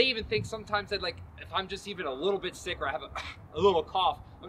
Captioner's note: coughs